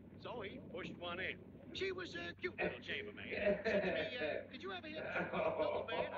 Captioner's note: śmiech